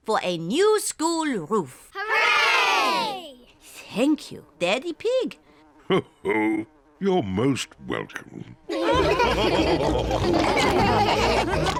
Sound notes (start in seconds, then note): 6.0 chuckles; 8.6 all laughing